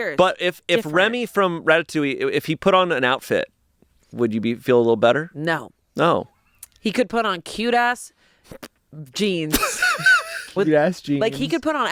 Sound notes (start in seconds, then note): 9.6 laughs